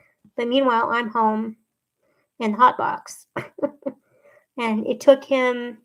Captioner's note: laughs